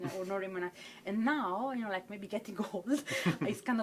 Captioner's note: chuckles